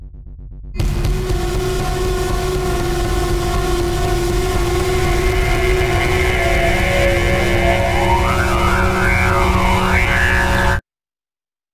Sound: creepy robot mouth noises

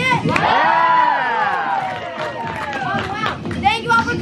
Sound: cheering

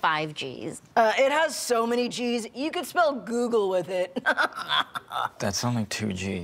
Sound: chuckle

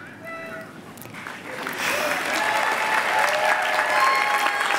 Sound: applause

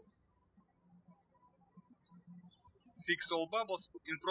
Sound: birds chirping

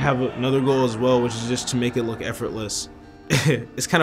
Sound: laughs

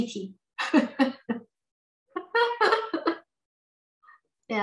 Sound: laughs

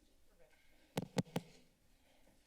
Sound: mic thump

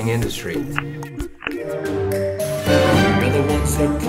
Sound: sound of slide changing - click, click

